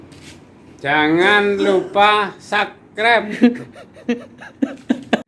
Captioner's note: laughs